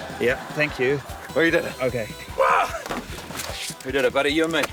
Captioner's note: grunts